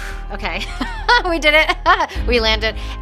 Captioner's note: exhales